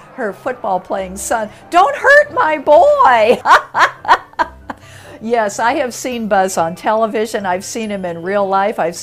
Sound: laughs

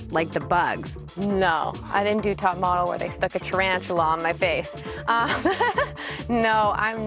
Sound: laughs

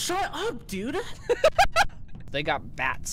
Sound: laughter

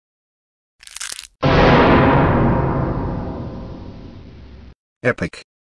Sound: dramatic sound

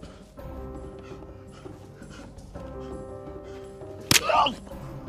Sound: man gasping; blows thudding; man groaning

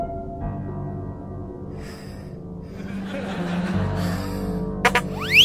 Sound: breathing heavily

